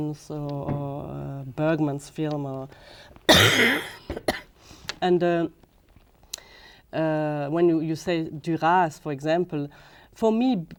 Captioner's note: coughing